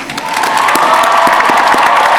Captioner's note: applause